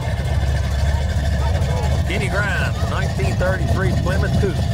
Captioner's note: revving continues